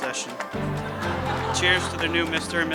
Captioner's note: crowd laughing